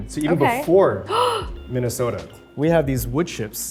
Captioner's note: Arden gasps